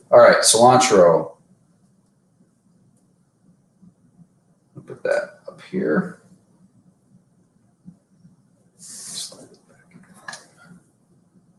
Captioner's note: whispering